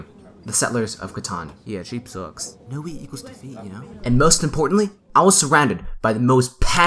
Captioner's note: chatter